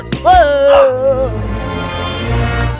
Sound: screams; gasps

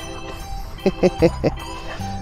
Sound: laughs

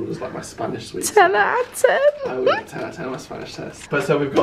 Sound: laughs

